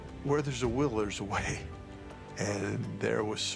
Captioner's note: chuckles